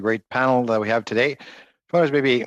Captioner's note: speaking French